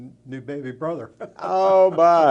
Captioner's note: chuckles